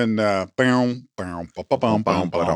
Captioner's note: hums "Match Game" theme music